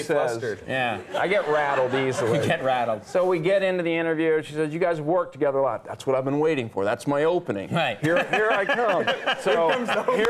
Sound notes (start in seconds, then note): 1.0 audience laughing; 8.0 Conan laughs